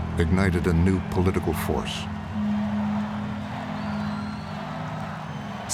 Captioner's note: crowd chanting "Sarah"